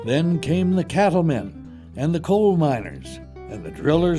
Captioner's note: voiceover